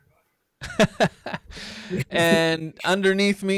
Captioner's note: laughing